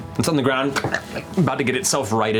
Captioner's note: insect chitter